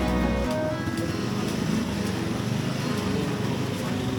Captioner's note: sizzling